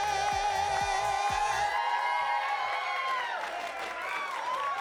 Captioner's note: audience cheering